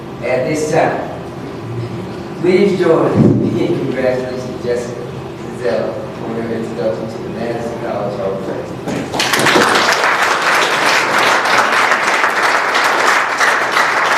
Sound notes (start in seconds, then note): 9.0 applause